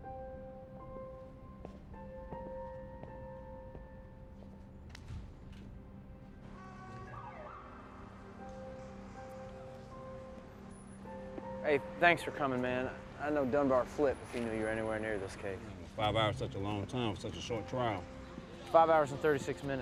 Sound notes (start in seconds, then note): 6.4 car honks; 6.5 siren wails